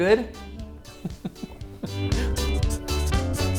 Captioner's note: laughs; upbeat music